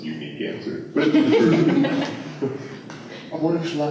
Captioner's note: laughter